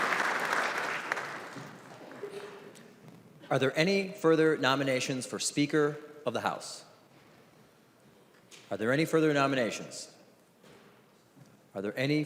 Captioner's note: applause